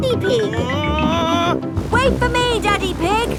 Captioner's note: screaming